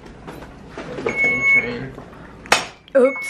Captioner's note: IV machine beeping